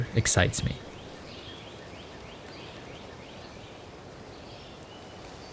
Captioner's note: birds continues chirping